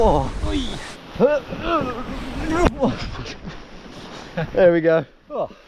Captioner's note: both groaning